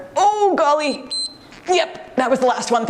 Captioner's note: timer beeps